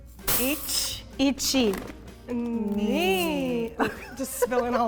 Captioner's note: speaking in Japanese